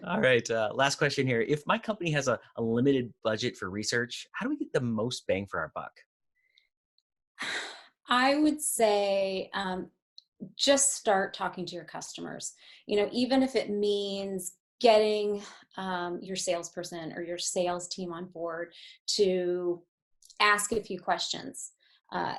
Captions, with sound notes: - All right, last question here. If my company has a limited budget for research, how do we get the most bang for our buck? - (sighs) I would say just start talking to your customers. You know, even if it means getting your sales person or sales team on board to ask a few questions